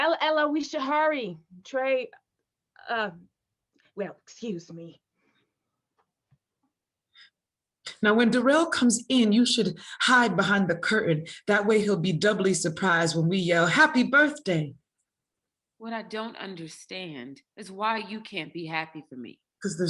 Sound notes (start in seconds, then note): none